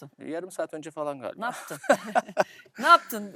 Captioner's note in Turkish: kahkaha